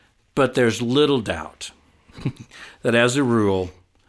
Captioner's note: laughs